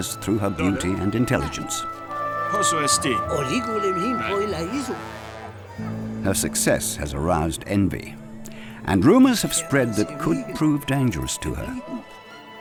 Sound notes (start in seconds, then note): 3.0 people speaking in Greek; 3.0 suspenseful music